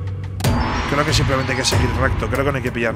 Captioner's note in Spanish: Gong